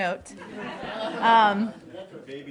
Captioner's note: laughter